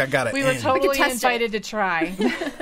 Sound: laughing

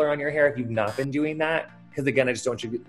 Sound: buzzer

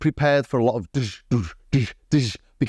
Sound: imitates drumming

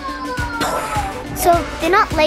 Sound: exhales

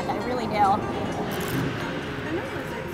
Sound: crunches loudly

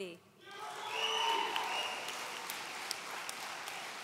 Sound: audience cheering

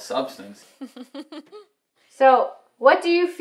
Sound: laughs

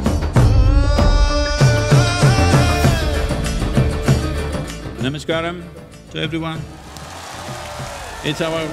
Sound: cheers/Applause

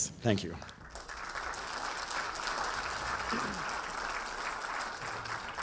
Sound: audience applauding

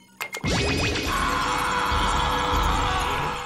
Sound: screaming

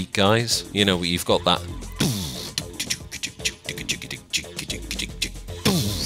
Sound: imitates bassline bumping

